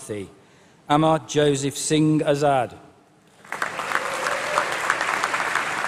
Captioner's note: appplause